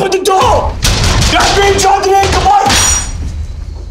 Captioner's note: Door opens